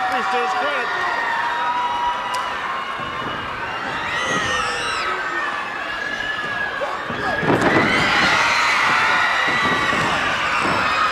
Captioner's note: crowd cheering